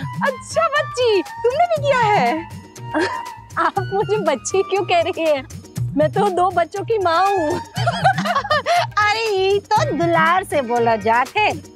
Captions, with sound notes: Really? Did you do the "Vrat" for real, Child? Why are you calling me child? I'm a mother of two. [laughing] Well, she's calling you so out of love.